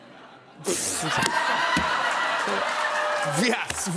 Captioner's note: laughter